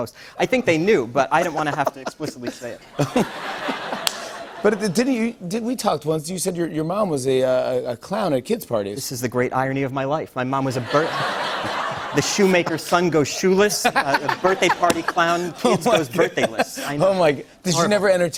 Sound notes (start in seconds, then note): 1.4 laughter